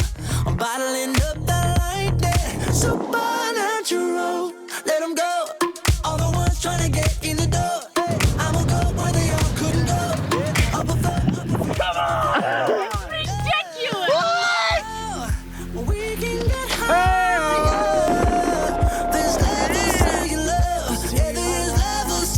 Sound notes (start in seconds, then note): 0.2 upbeat pop music; 18.4 hollering; 19.9 upbeat pop music